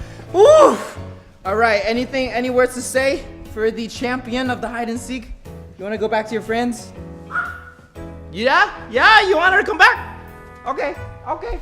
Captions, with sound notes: Oof! Alright, any words to say for the champion of hide and seek? You want to go back to your friends? [Dog Bark] Yeah? Yeah, you want her to come back? Okay. Okay.